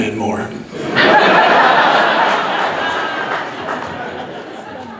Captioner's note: audience laughs